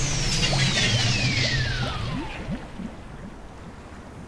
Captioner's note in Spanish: maquinaria apagándose